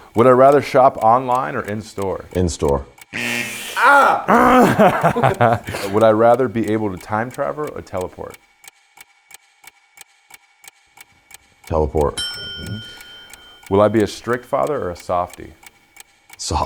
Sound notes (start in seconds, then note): 3.5 buzzer buzzing; 8.7 clock ticking